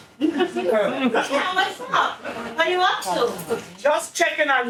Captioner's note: audience laughing